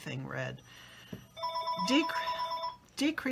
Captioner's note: phone ringing